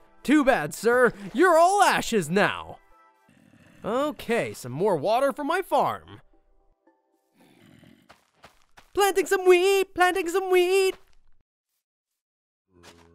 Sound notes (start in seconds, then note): 3.3 zombie grunts; 7.4 zombie grunts